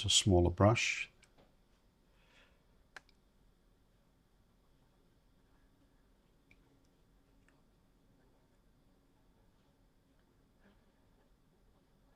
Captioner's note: silence